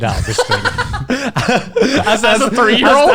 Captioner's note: laughing